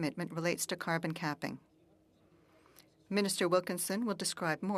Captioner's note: speaking French